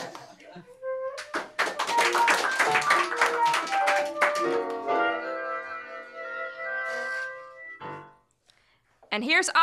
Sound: laughter; applause

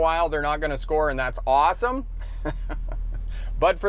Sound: giggles

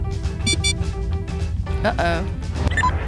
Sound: door block alert; sensor beeps faster

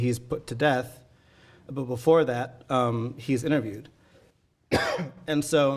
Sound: coughing

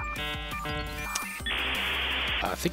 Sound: critical dialup noises; dialup noises INTENSIFY

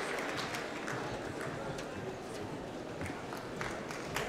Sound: applause

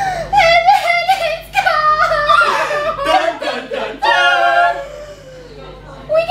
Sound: dramatic gasp

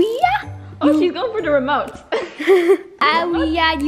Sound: both laughs

